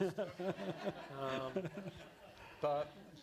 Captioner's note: laughter